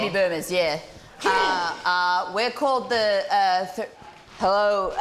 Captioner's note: grunts